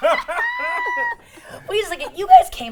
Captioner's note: both laugh; guffaws